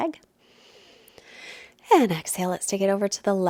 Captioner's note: inhales deeply